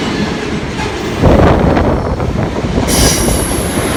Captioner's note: wind blowing